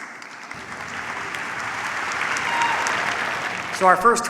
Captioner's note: applause